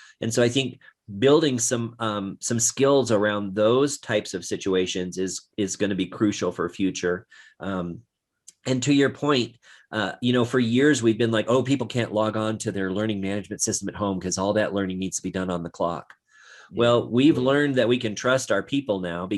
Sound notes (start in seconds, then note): none